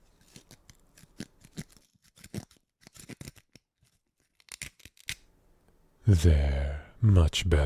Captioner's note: knife cut noise